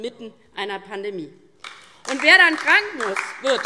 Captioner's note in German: Beifall DIE LINKE